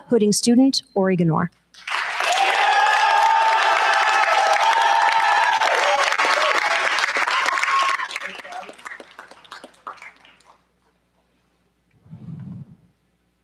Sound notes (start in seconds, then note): 1.8 cheers, applause